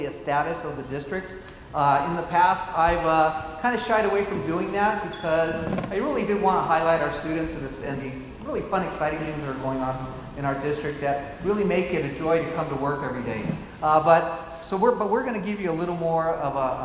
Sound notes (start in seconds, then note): none